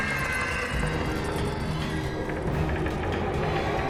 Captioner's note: eerie sounds